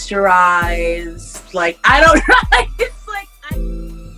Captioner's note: laughter